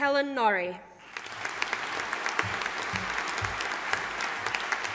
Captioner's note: audience applauding